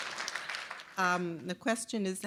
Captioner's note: applause